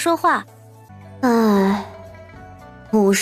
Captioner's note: sigh